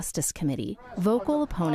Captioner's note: crowd chanting